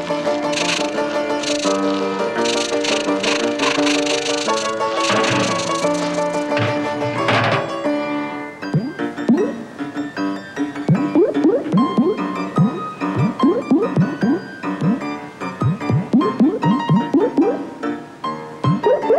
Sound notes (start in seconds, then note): 5.3 clattering; 8.6 dripping